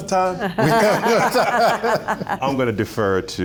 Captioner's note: laughter